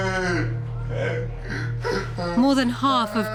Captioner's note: moaning